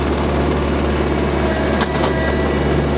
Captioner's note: engine whirring